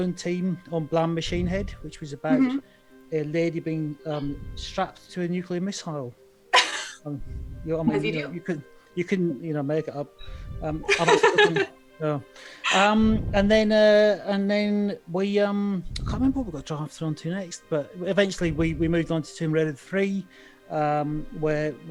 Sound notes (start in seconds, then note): 6.5 laughs; 10.8 laughs